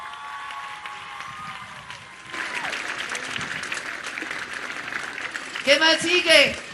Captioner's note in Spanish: aplausos